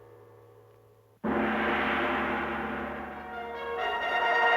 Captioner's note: gong chiming; dramatic music